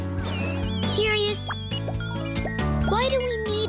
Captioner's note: beeping